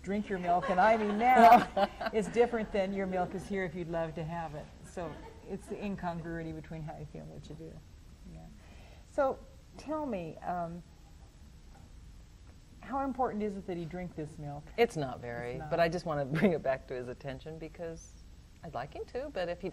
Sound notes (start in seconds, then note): 0.0 laughs; 0.6 laughter